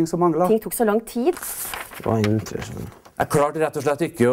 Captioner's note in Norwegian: Blaing i papirer og mumling